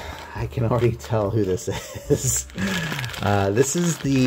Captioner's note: risas